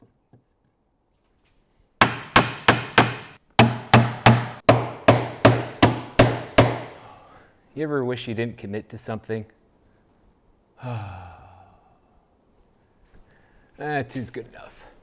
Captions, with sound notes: [banging] You ever wish you didn't commit to something? [sighs] That's good enough.